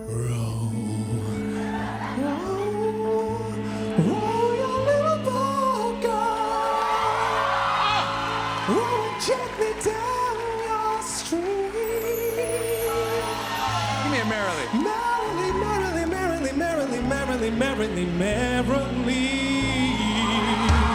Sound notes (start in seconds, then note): 7.3 cheers and applause; 13.3 cheers and applause